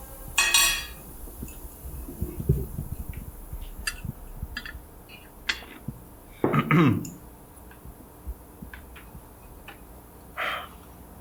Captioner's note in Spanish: carraspeo